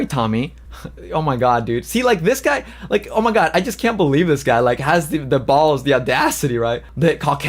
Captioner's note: laughs